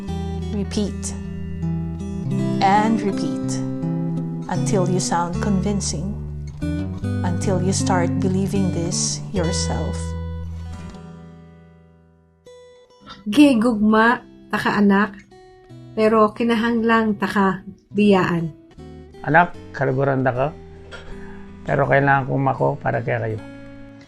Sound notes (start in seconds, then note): 13.3 in Cebu language; 18.8 in Pampanga language; 23.8 in Visayan language